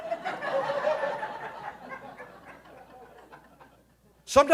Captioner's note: audience laughing